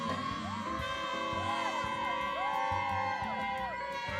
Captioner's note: excited shouts